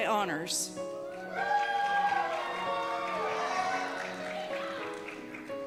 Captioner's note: cheers and Applause